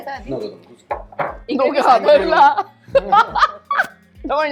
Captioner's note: chuckles